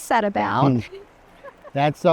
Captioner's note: laughs